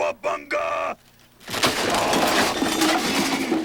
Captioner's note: crash